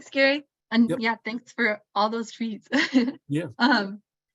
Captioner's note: chuckles